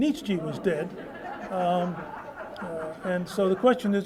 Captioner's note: laughter